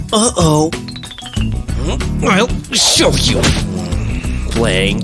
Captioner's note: grunts